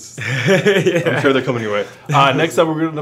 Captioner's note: laughs